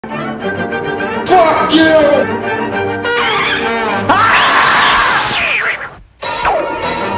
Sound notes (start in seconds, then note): 4.1 Tom's coonskin cap hisses and screams like a Marmot